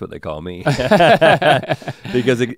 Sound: both chuckle

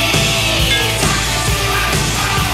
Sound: glass clinks

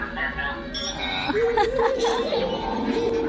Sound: chuckling

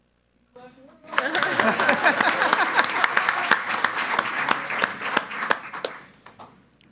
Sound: group applauding

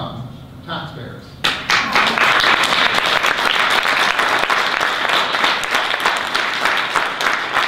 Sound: audience applause

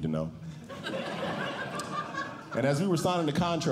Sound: audience Laughing

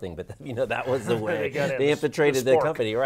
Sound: laughing

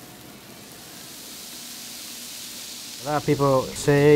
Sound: food sizzling

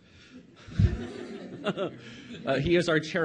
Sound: audience laughs

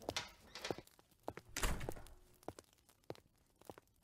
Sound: door closes

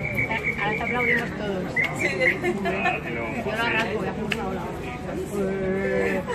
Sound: giggles

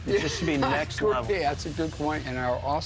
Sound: laughs

